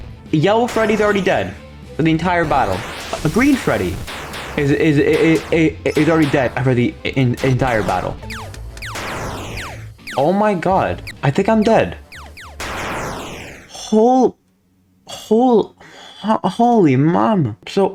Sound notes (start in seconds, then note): 4.5 stutter Moment